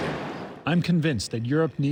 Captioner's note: through translator